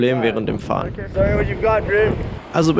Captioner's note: surfer voice